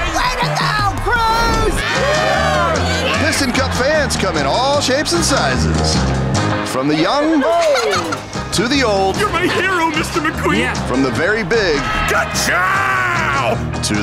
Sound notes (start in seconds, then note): 7.2 giggling